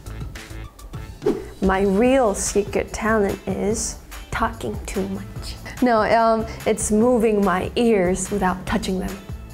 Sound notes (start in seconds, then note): 1.2 image whooshes; 9.3 lively music